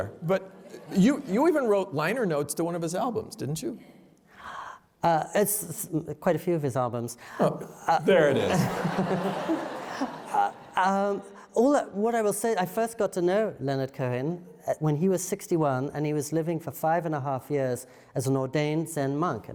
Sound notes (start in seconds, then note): 8.4 laughter